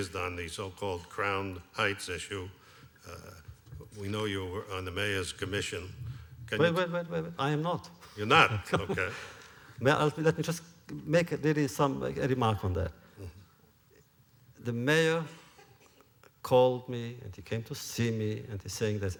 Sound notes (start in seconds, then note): 8.6 laughs